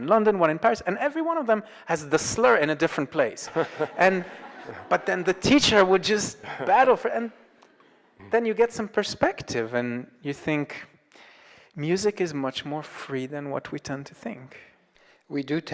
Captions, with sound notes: one in London, one in Paris, and every one of them has the slur in a different place. (audience laughs) But then the teacher would just battle. Then you get some perspective and you think, music is much more free than what we tend to think.